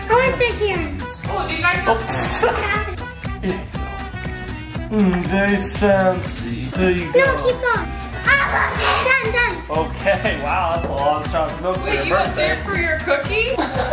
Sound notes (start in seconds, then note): 1.6 laughs